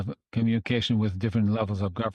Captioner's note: speaking French